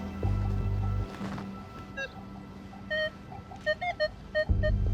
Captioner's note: metal detector beeping